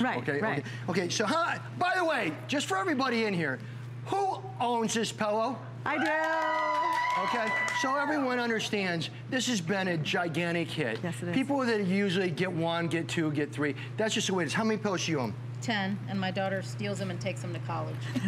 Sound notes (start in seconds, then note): 5.9 cheering